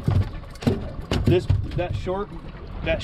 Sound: fish thrashing

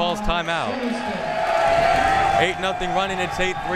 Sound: crowd members cheering

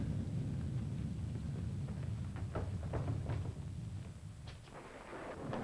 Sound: thunder rumbling; rain pattering

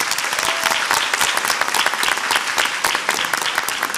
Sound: audience applauds

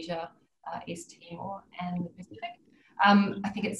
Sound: audio distorts

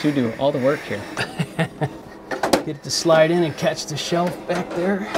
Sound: laughing

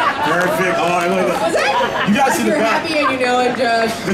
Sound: announcers chatting

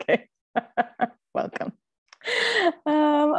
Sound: laughs

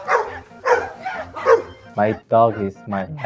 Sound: barking

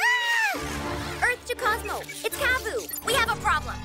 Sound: screams

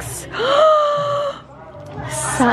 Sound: gasps

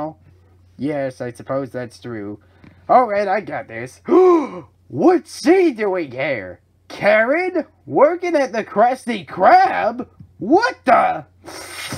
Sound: gasps

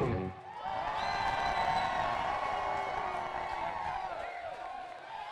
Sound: audience applauds

